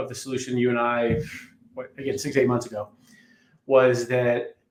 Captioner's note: sighs